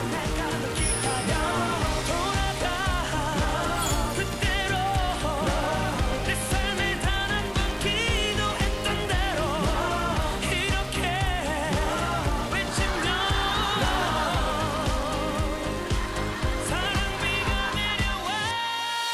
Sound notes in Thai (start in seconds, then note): 12.4 หัวเราะราวกับว่าไม่ใช่เรื่องของเขา